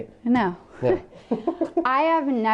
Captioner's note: laughter